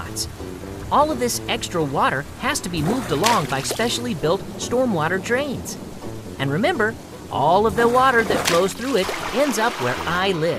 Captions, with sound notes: sidewalks, streets, and parking lots. All of this extra water has to be [water splashes] moved along by specially built stormwater drains. And remember all of the water that flows [water splashes]